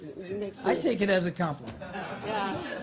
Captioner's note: laughter